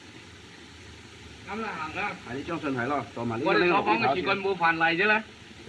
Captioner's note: speaking Chinese